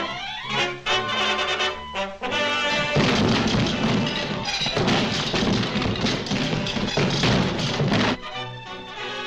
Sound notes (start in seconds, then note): 2.7 building thuds